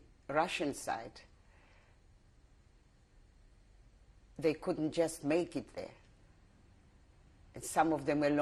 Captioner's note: pauses for 3 seconds